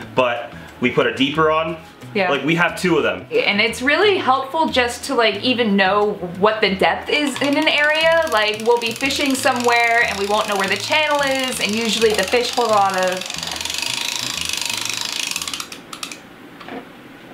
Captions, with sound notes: but we put a Deeper on, Yeah. -Like, we have two of them. --and it's really helpful just to even know what the depth is in an area, [clicking sound] like we'll be fishing somewhere, and we won't know where the channel is, and usually the fish hold a lot of.... [clicking stops]